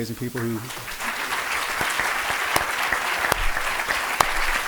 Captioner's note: applause